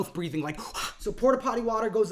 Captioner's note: gasping